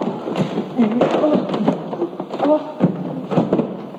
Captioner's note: gagging